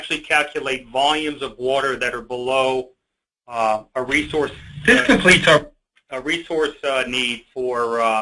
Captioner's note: audio interruption